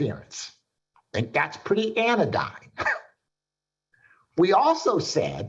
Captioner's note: chuckles